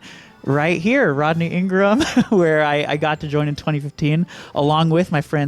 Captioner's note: laughs